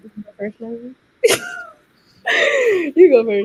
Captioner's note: laughing